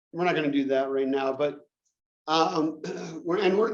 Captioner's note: cough